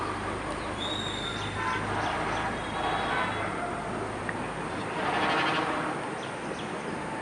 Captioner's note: sound of car horn in the distance